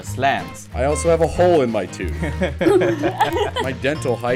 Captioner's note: laughter